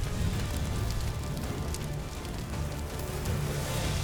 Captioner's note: flames crackling